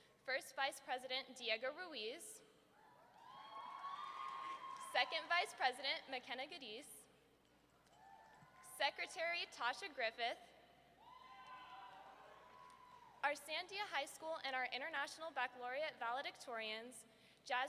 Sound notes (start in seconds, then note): 3.1 audience cheering; 11.0 audience cheering